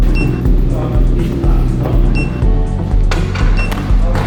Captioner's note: keypad beeping